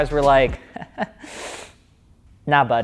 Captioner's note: laughs